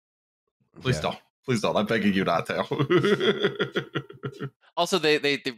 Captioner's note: laughs